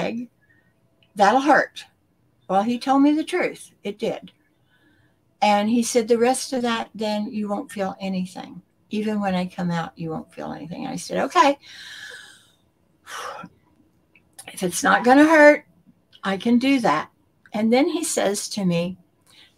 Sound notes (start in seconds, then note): 11.7 sigh of relief